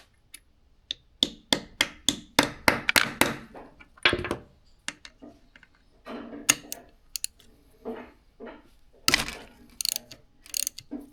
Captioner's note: clicking